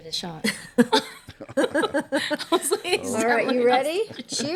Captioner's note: laughter